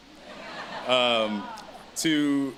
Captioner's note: audience laughs